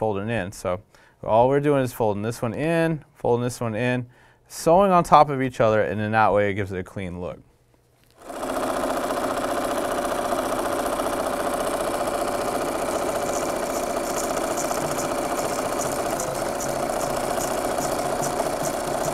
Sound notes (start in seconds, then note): 8.2 sound of a sewing machine; 17.4 church music